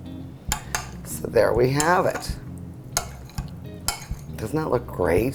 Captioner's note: spoon clunking on bowl